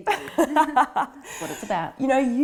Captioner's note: both laughing